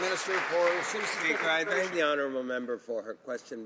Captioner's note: some Applause